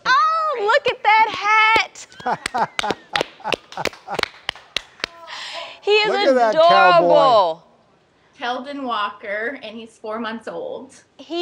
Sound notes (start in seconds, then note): 2.0 clapping; 2.0 laughing